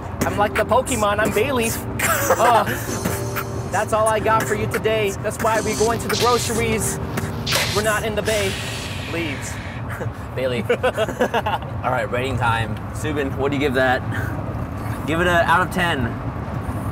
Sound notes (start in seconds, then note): 2.0 laughs; 11.3 laughs